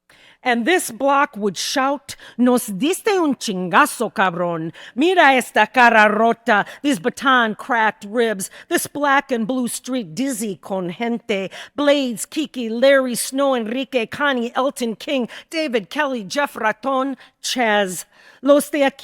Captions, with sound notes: "And this block would shout, (speaking in Spanish) this baton-cracked ribs, this black and blue street dizzy con gente, Blades, Kiki, Larry, Snow, Enrique, Connie, Elton, King, David, Kelly, Jeff, Raton, Chaz.